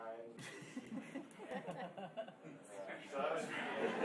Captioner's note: laughing